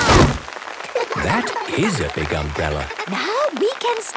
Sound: laughter

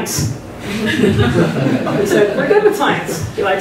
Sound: laughter

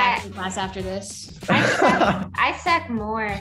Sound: Jaren laughing

